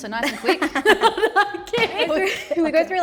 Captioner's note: both laughing